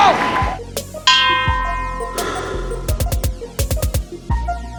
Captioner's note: bell ringing; intense music